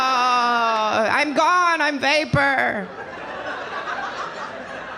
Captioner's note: audience laughing